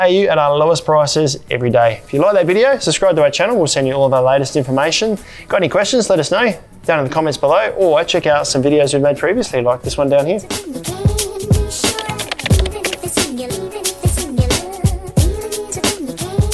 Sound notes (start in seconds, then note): 10.6 funky music; 11.7 keyboard clicking